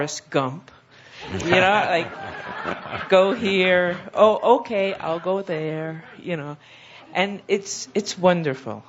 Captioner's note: laughter